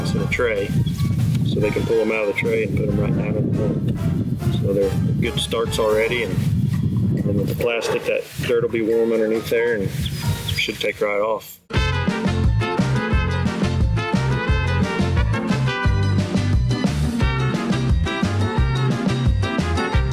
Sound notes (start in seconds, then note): 6.7 wind howling; 11.6 upbeat Mariachi music